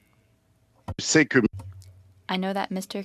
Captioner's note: speaking French